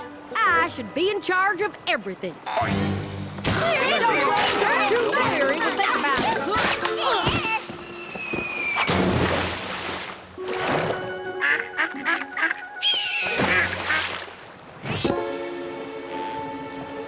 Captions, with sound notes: I should be in charge of everything. (angry shouting) (splash) (quacking) (squawk)